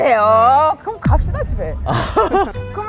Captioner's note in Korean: 덜덜